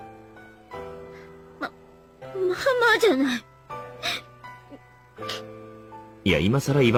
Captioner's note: sniff